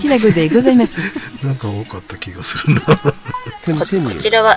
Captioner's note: laughs